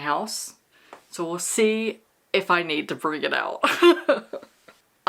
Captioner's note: laughter